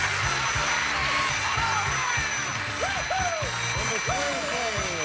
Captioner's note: audience applauding